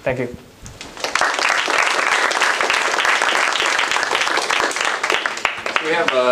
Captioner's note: applause